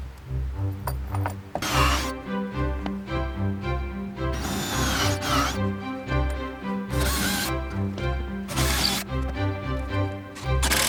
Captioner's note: sound of working with drills